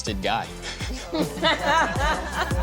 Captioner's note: laughter